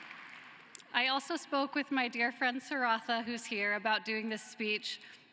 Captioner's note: cheering and applause